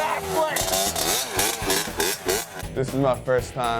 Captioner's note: dirt bike rumbling